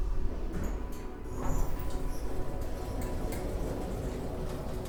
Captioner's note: elevator rumbling